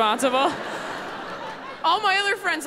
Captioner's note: audience laughing